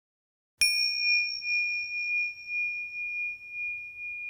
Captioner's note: bell chiming